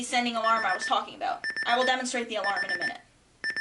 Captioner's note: beeping